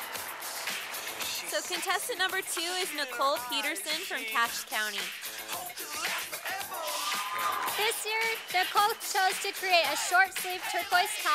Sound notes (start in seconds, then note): 0.0 sound of applause from audience; 6.0 sound of cheering from audience